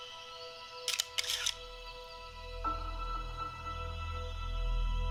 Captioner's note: somber music; camera shutter clicks